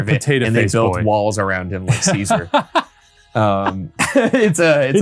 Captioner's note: laughing